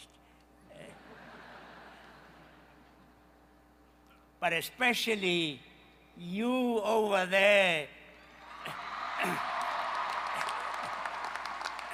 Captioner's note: cheers from the crowd and graduating seniors in Carolina blue robes